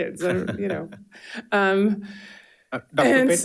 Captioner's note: participants laughing